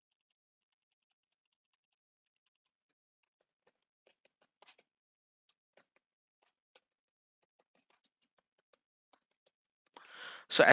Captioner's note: awkward silence